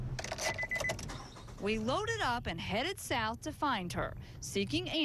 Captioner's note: beeping